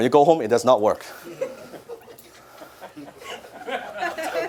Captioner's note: audience laugh